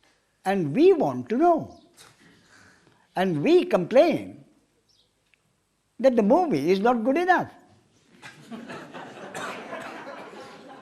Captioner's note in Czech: smích